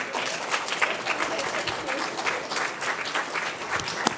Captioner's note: applause